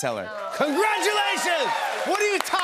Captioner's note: cheers and applause